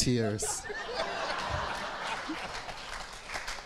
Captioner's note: crowd laughs